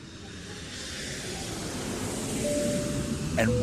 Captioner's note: airplane engine; dinging